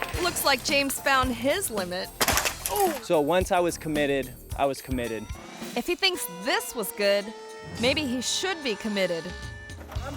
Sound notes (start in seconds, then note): 2.2 bike clatters